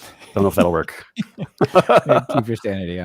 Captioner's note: both laughing